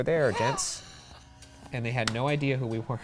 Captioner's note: laughs